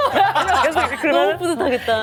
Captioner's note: laughs